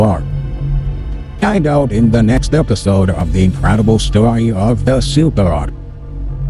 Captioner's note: voiceover